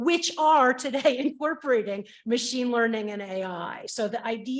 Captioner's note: chuckles